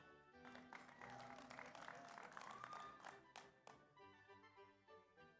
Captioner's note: audience applauds; slow orchestral music continues